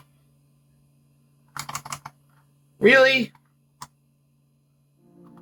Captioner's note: keys tapping